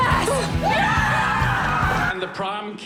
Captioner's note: yelling